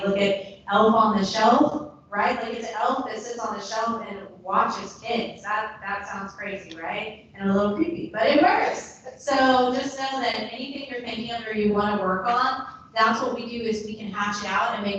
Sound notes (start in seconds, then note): none